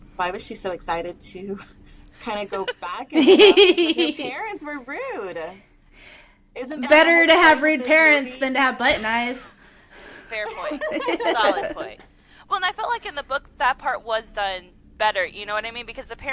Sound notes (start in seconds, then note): 10.4 laughter